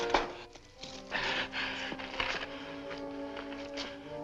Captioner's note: gasping